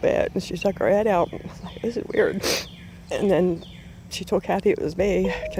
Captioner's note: sniffle